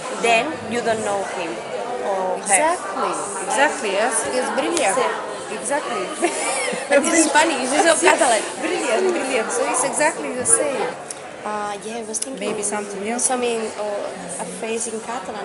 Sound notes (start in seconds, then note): 5.8 laughs